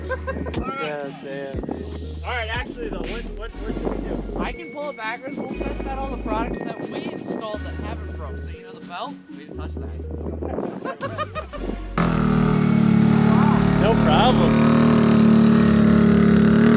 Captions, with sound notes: (laughing) - All right, actually though, what should we do? - I can pull it backwards. We'll test out all the products that we installed that haven't broke. So you know the belt? We didn't touch that. (laughing) (engine revving) - Wow. - No problem.